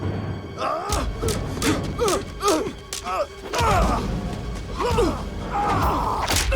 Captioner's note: Dalton and Knox grunting; sticks clacking